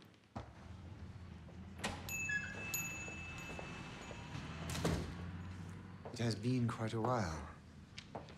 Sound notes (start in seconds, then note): 1.9 bell dings; 4.3 door closes